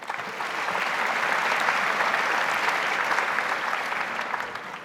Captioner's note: audience applauds